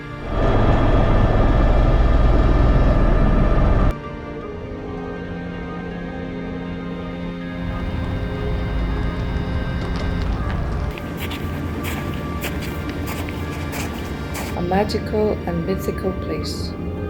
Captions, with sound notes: (engine roaring) (peaceful music continues) (snow crunching) - A magical and mythical place